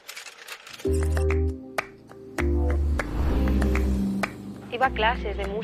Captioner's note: claps